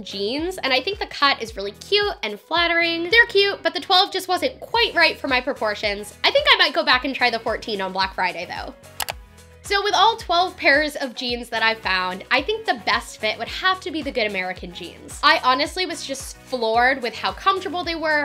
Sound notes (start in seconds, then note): 8.9 click